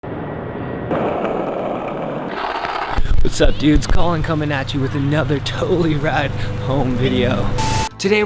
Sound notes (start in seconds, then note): 0.0 airplane roaring; 0.0 skateboard wheels rumbling